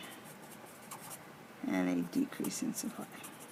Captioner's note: pen scratches